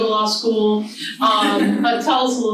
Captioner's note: audience laughs